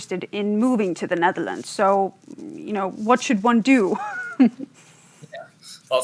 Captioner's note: laughs